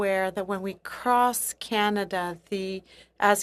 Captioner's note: speaking in French